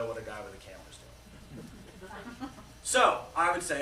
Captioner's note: laughter